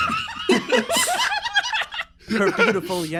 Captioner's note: laughs